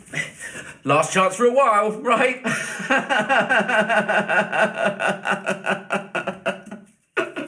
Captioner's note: laugh-sobs